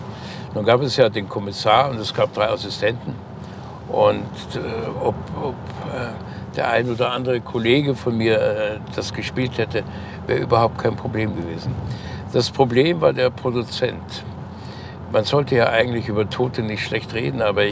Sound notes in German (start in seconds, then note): none